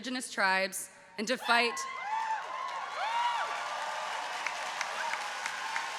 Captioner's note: audience cheering